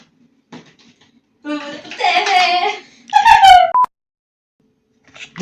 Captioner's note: laugh